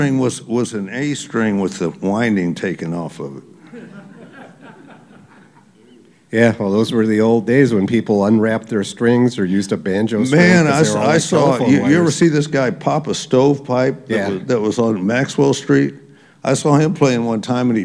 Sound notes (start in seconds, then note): 3.6 laughter